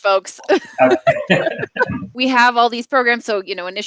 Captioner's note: laughing